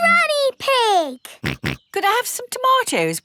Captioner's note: snorts